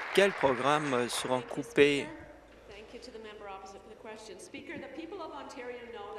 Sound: applause

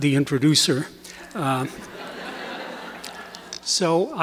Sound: laughter

